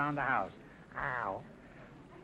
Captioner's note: playful growling noise